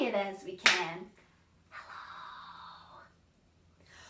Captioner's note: whispers